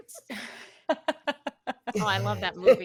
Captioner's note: laughing